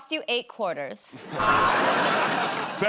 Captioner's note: buzzer